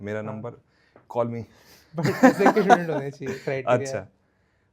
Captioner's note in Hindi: हंसी